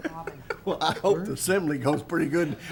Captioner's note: laughs